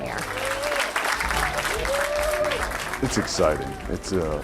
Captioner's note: crowd applauds